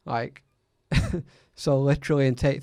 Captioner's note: chuckles